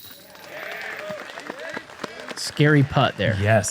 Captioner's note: applause